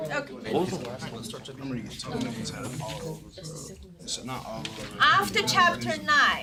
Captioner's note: students murmur